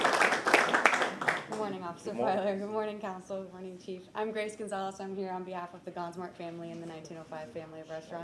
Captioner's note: applause